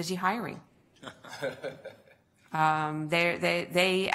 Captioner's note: laughter